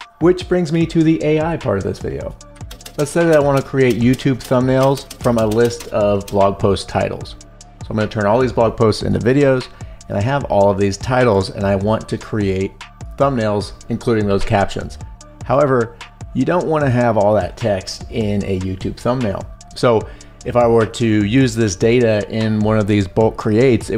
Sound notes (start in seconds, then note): 2.6 keyboard clicks